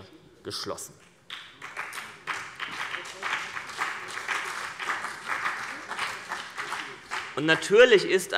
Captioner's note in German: Vereinzelter Beifall CDU und BÜNDNIS 90/DIE GRÜNEN